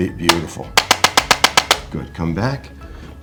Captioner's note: instrument clicking